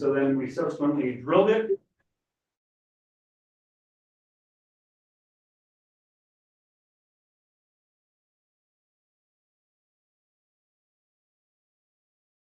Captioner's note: no audio